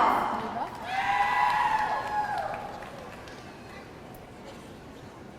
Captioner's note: audience cheering